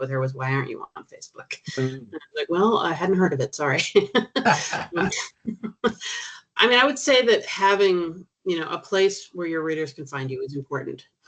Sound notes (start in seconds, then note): 4.4 chuckling